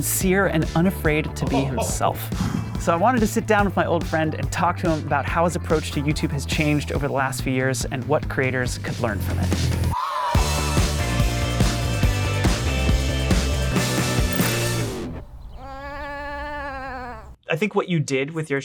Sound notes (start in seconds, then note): 10.4 upbeat music; 15.6 sheep braying